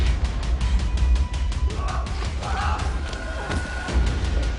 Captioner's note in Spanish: Quejidos